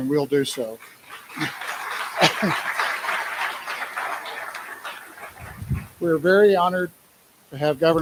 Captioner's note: applause